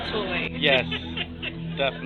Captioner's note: laughs